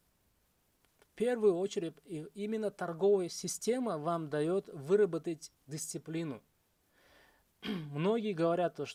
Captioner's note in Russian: откашливается